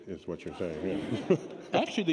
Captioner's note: laughter